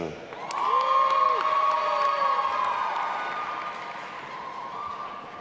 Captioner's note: audience applauding and cheering